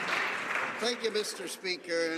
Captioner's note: some Applause